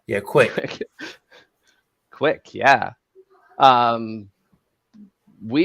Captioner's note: laughs